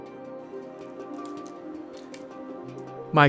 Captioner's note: typing